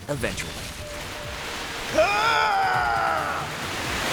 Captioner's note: screaming